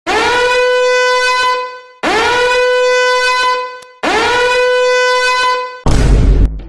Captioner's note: alarms